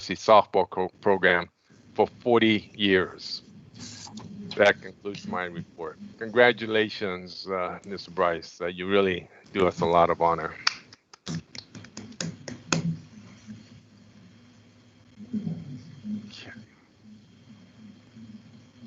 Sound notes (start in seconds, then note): 12.8 applause